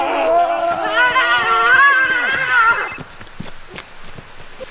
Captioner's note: mobile phone ringing